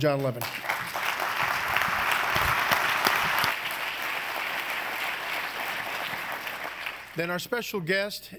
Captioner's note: applause